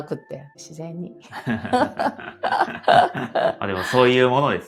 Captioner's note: laughs